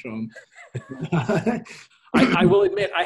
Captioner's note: both laugh